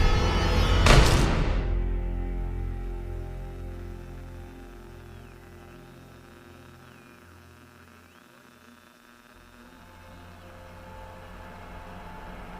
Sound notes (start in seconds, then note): 0.8 gunshot fires; 2.9 electronic buzzing; 9.6 eerie music